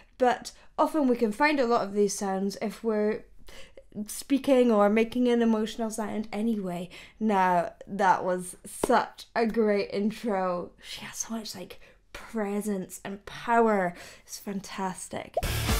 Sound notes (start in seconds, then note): none